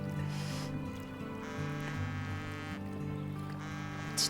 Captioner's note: phone buzzing